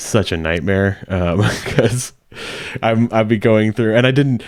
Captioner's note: chuckling